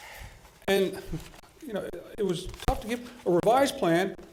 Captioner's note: stutters